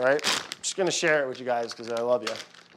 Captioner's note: paper rustling